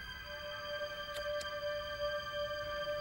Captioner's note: soft eerie music; lighter clicking; soft eerie music